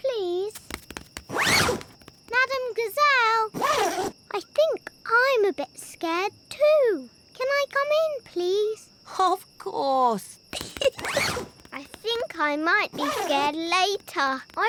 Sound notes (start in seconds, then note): 10.5 giggles